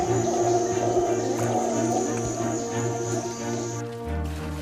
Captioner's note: howler monkeys howling